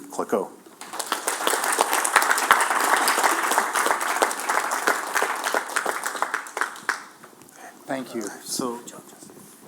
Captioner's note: applause